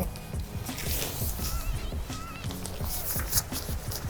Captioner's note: polyester swishes